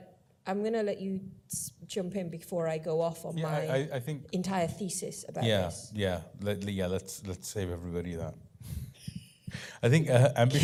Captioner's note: laugh